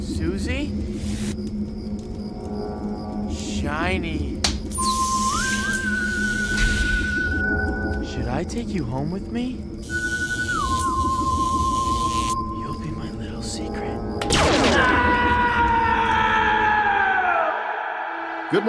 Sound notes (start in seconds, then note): 4.5 eerie sci-fi music; 4.5 object whirring; 9.9 electrical buzzing; 14.2 object exploding; 14.6 Steve screaming